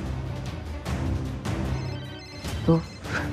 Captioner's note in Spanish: Suena el celular